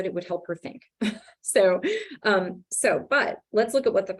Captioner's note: laughs